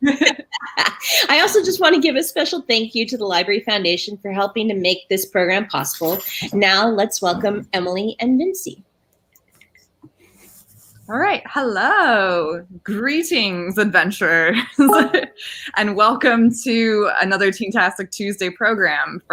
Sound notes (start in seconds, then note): 0.1 laughing; 14.7 honking; 14.8 giggling